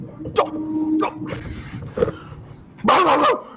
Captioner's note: frustrated exhale